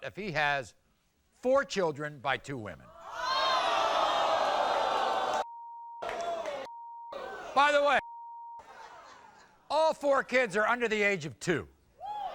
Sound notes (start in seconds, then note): 3.0 audience erupts